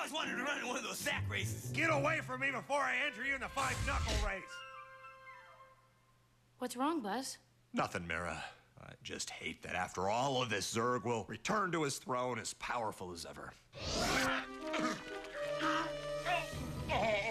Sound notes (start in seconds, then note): 13.8 grunting